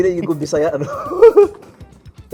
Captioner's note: laughs